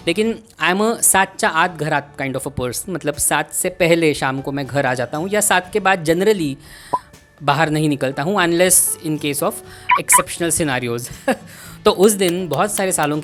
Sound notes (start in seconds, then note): 9.9 sniggers